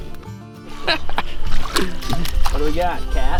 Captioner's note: laughing